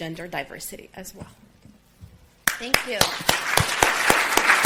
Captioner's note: applause